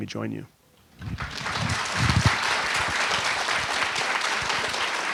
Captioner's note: audience applauding